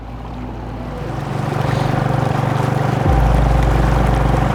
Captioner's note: motor revving